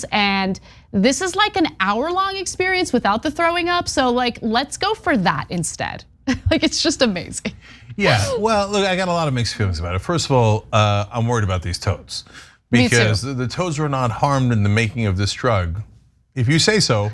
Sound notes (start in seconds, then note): 5.8 laugh